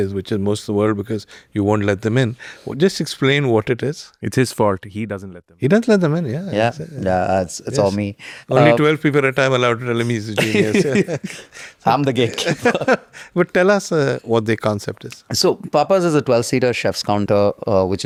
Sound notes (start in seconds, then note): 10.3 laughing